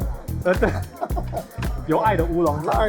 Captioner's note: laughs